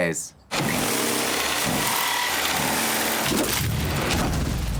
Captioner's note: sawing sounds